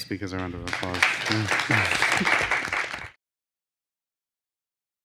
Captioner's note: applause